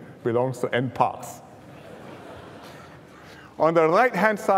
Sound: laughter

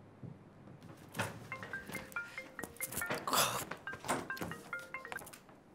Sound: phone rings

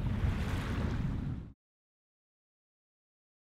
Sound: waves

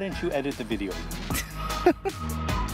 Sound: laughs

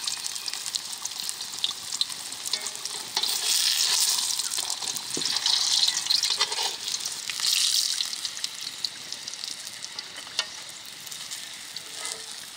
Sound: oil sizzles

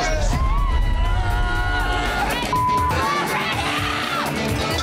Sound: girl screams

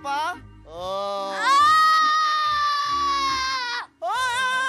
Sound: screams

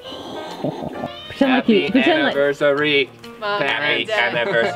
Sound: robotic voice

